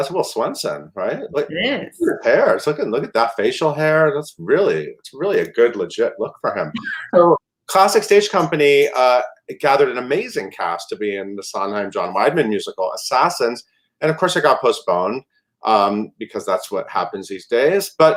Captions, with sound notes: That's Will Swenson, right? - It is. - Hair, look at that facial hair that's really, it's really a good, legit look for him. (laughter) So Classic Stage Company gathered an amazing cast to be in the Sondheim, John Weidman musical, Assassins and of course it got postponed because that's what happens these days.